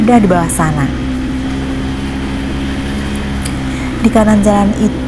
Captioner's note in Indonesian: suara sepeda motor